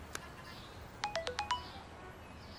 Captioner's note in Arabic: إشعار جديد على WeChat